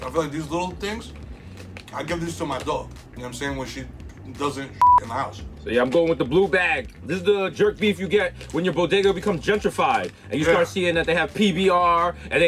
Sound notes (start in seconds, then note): 4.8 beep